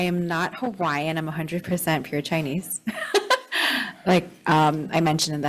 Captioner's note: laughs